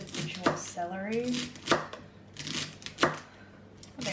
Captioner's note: chopping